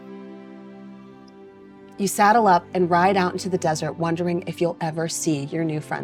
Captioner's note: none